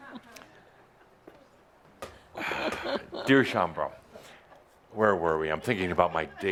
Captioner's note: short pause